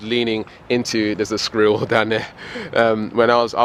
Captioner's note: chuckles